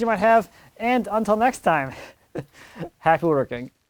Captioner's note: laughs